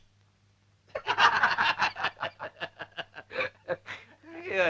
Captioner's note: laughing